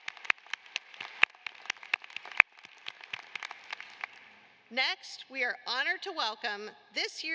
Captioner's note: applause